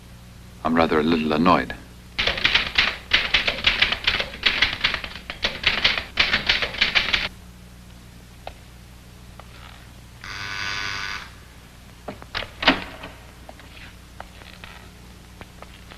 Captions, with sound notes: I'm rather a little annoyed. (typing) (door buzzer)